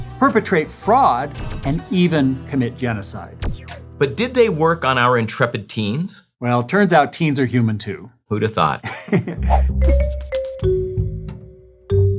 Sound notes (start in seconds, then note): 9.3 laughs